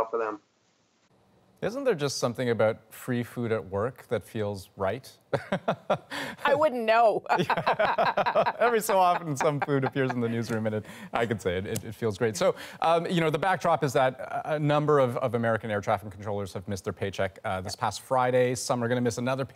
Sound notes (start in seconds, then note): 8.9 laughter